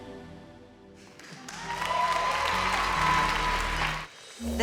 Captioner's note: applause